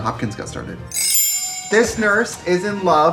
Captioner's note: chimes tinkle